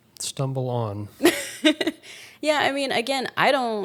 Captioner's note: laughing